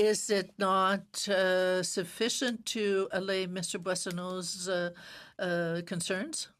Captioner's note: speaking French